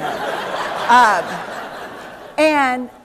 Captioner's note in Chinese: 笑聲